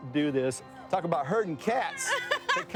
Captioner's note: laughing